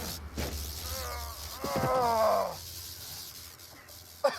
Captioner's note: groaning